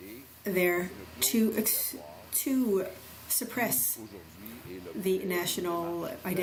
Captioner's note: speaking french